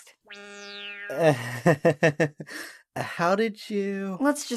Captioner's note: nervous chuckle